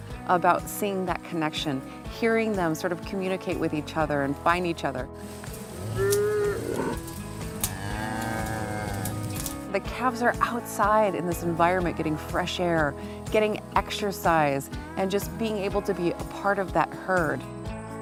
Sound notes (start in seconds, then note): 5.8 cows mooing